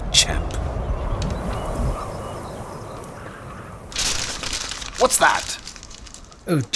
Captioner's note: strong gust of wind, sound of paper being snatched and crinkled